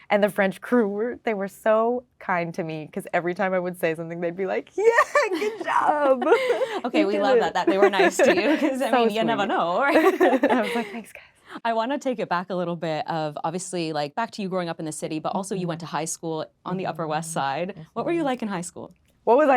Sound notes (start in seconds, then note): 4.9 laughing